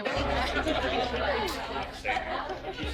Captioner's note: patrons chatting